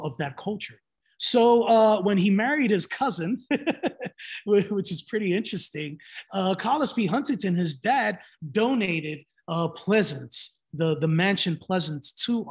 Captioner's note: laughs